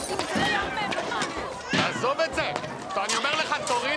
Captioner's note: baby cries